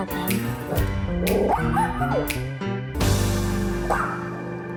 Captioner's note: dog barking